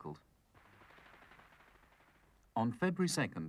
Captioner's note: gun firing